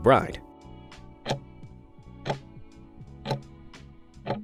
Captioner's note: timer ticking